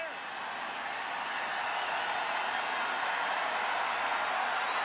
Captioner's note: cheering